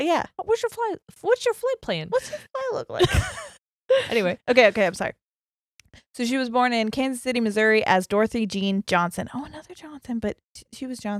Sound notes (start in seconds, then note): 3.0 laughs